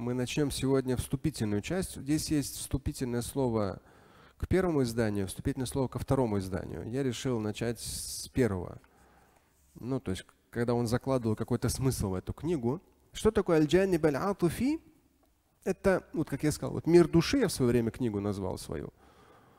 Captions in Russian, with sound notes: Мы начнем сегодня вступительную часть. Здесь есть вступительное слово к первому изданию, вступительное слово ко второму изданию. Я решил начать с первого. Когда он закладывал какой-то смысл в эту книгу. Что такое [говорит на арабском]? Это, как я сказал, «Мир души» я в своё время книгу назвал свою.